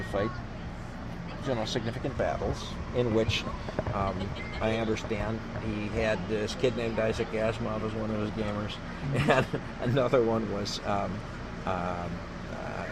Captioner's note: laughs